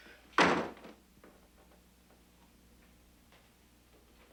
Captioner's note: door slamming